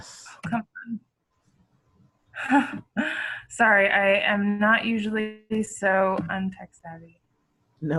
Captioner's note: laughs